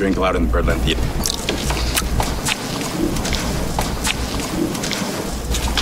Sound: Miranda munching loudly

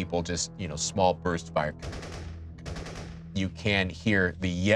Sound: guns firing

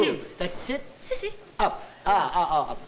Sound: non-english

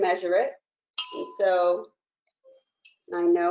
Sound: clanging

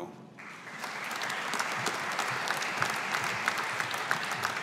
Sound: audience applauding

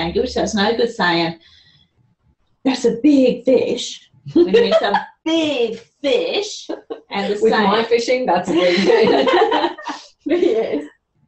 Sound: laughter

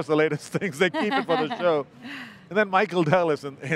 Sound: laughs

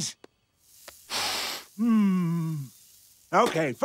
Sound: sniffing

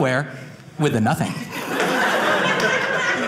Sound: audience laughing

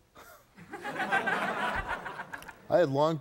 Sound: audience laughing

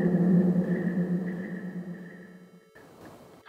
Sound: distant birds cawing

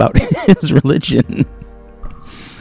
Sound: laughs

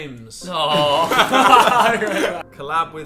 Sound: group laughing

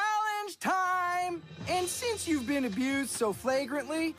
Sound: none

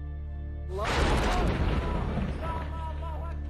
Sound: explosion

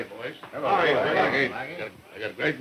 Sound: voices overlapping in greeting

